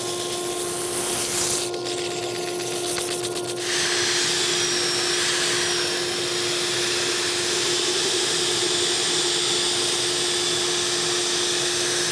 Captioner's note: sander tool sputters